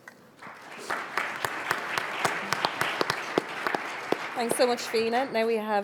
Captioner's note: audience applauds